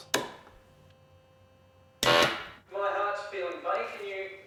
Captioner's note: machine blaring